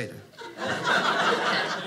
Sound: audience laughing

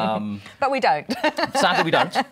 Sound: laughter

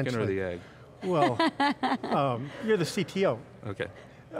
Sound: laughs

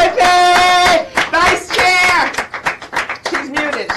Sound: applauds

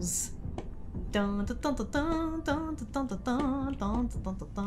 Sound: humming

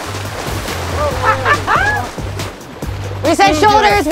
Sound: bikers exclaim

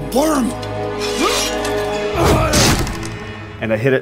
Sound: Saul grunting; wood thumps

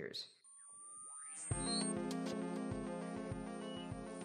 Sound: high pitched sci-fi noises, spooky music

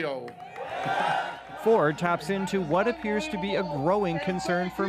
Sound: applause

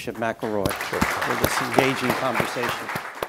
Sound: applause

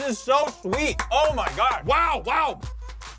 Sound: clapping

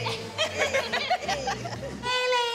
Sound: laughing

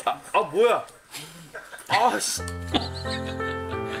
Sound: laughs at himself farting

